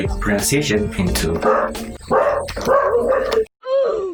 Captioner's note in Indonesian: kaga jadi, ada suara anjing